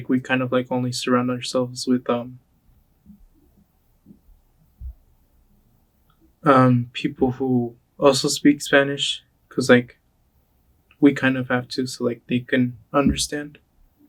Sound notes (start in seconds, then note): none